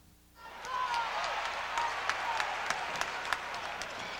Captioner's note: audience cheering